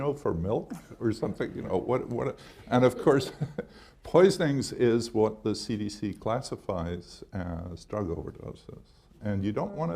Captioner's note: laughs